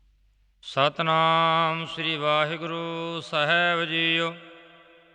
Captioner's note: chanting